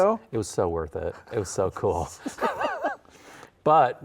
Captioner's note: both laughing